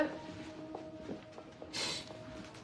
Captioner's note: sniffles